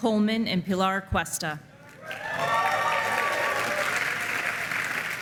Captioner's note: applause